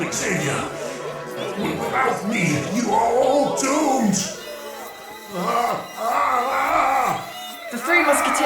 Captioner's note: distant children chanting; groaning